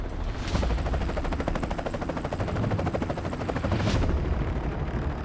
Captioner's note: helicopter whirring